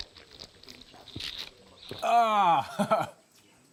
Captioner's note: sighs, laughs